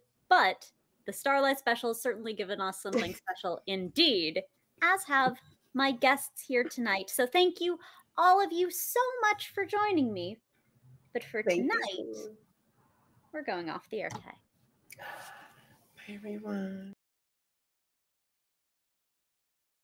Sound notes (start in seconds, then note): 2.9 chuckles; 15.0 gasps